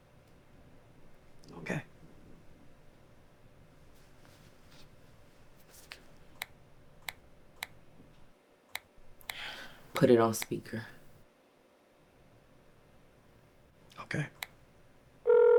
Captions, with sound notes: - Okay. (phone clicking) - Put it on speaker. - Okay.